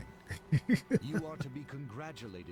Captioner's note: laughing